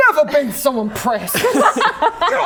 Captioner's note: laughing